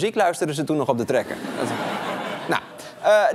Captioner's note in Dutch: gelach